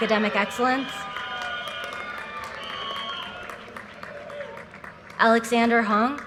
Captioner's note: audience cheers and applause